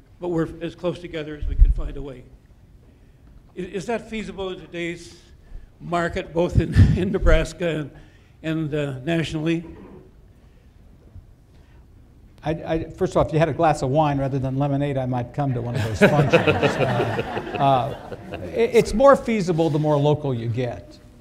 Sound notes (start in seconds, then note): 15.7 laughter